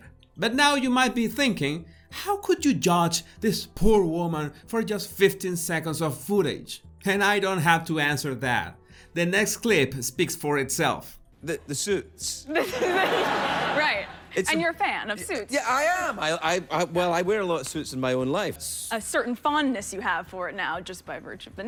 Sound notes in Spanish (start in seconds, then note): 12.4 risas